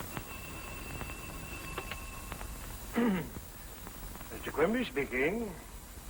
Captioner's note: phone ringing